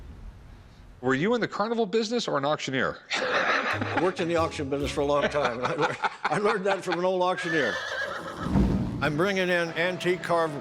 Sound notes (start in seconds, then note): 3.1 laughs; 7.4 horse whinnying